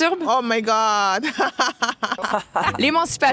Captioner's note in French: rires